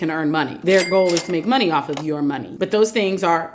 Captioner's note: cash register sounds